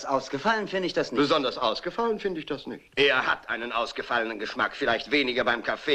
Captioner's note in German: imitiert englischen Akzent